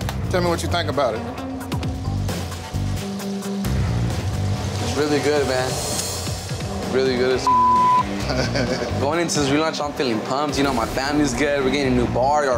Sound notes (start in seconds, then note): 8.2 chuckles